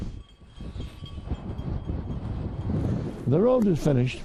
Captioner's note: bell ringing